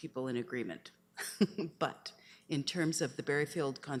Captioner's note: chuckles